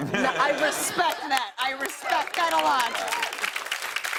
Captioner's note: laughter; applause